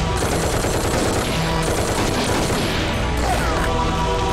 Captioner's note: Rapid gunfire